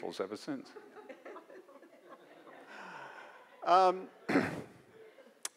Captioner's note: audience laughs